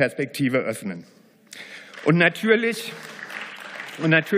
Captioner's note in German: Beifall